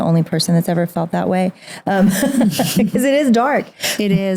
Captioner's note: laughs